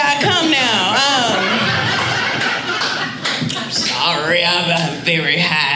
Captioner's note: audience laughing